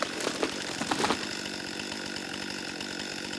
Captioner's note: chainsaw running; crunching thud of tree falling